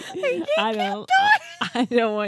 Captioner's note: squealing unintelligibly